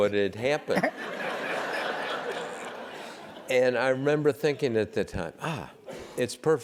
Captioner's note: laugh